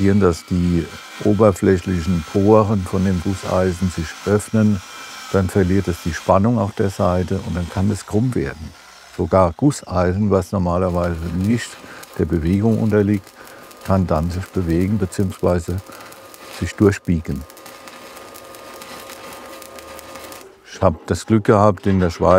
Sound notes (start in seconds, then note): 17.6 hissing